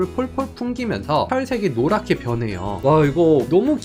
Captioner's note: voiceover